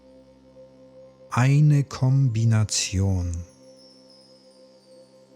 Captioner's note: german